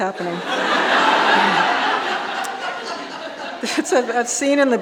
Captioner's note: audience laughing